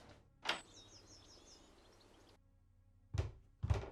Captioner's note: birds chirping